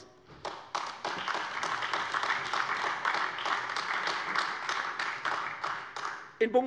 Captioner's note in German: Beifall AfD